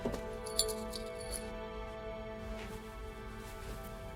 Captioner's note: chain jingling